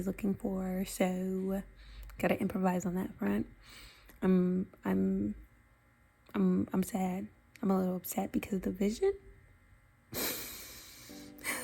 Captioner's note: deep breath